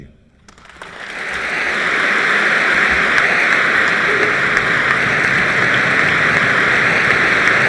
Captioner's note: long applause